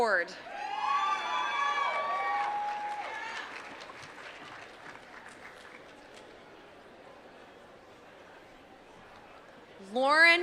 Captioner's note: applause